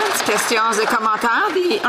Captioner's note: applause